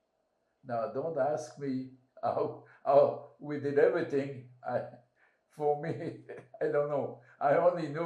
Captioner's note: laughing